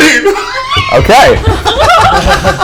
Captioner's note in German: glücklicher Schrei; Gelächter